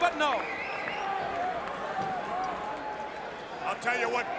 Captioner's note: crowd cheering